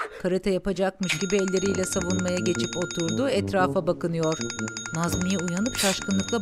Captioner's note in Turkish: Telefon zili sesi